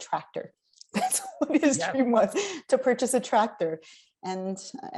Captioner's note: laughs